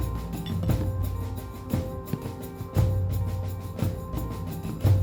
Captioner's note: glasses clicking